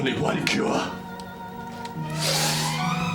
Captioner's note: screams